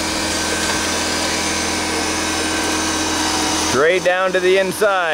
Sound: machine whirring

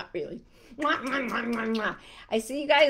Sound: kissing sounds

